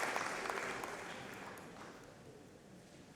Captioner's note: applause